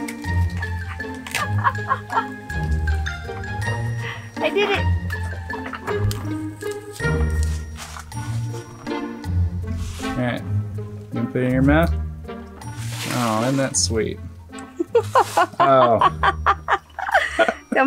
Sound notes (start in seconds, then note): 0.5 laughing; 14.7 laughs